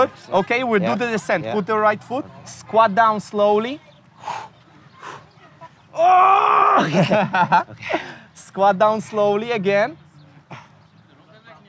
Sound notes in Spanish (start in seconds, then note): 5.9 gritos; 7.4 se ríe